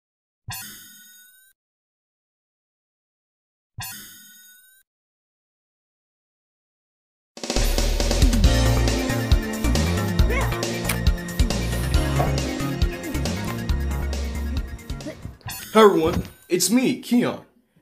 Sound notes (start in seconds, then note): 9.6 Keyon grunts